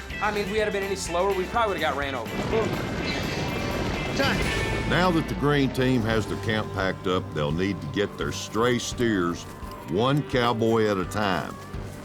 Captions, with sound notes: I MEAN, WE'D HAVE BEEN ANY SLOWER, WE PROBABLY WOULD HAVE GOT RAN OVER. [CATTLE STAMPEDING] NOW THAT THE GREEN TEAM HAS THE CAMP PACKED UP, THEY'LL NEED TO GET THEIR STRAY STEERS, ONE COWBOY AT A TIME.